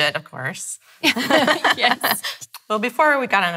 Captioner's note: laughing